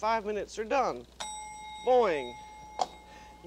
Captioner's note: bell dings